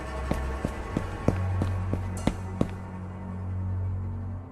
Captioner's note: footsteps